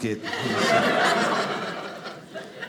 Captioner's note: audience laughing